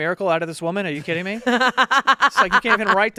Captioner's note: laughing